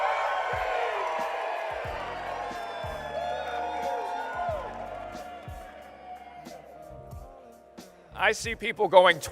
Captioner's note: cheering and applause